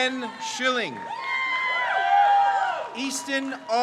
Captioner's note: crowd cheers